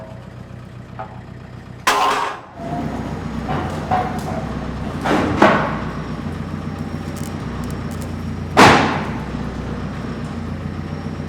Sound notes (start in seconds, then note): 1.8 metal bangs; 8.5 wood thunks